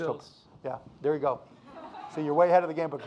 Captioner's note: audience laughing